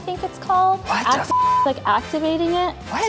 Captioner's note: beeps